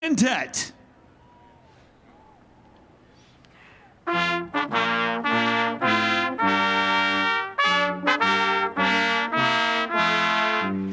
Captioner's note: cheers and applause